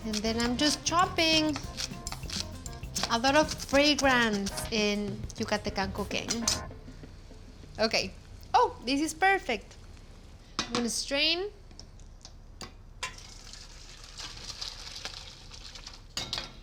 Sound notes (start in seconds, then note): 13.2 splashing